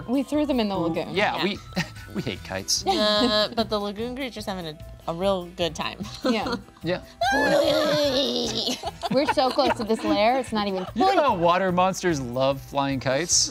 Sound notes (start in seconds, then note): 7.1 imitating Creature groaning happily